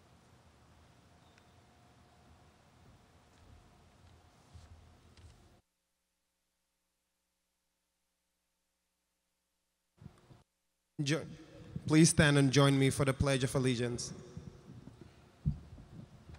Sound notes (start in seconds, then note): none